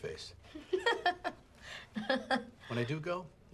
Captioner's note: laughs